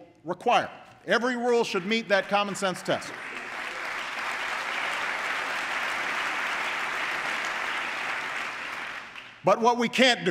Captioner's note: applause